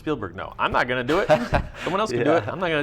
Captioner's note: laughs